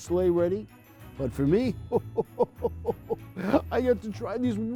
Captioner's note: chuckles